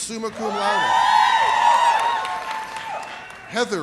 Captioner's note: audience cheers